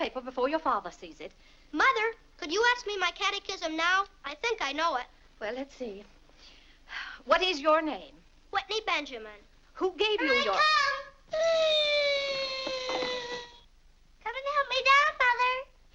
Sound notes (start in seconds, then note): 6.9 sighs